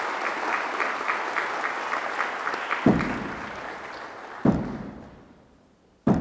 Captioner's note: applause